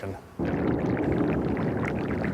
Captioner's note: ambient underwater noise